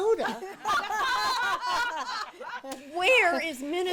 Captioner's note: women laugh